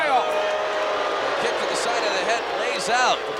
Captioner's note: applause